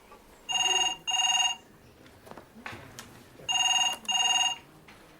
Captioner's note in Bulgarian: Звънене на телефона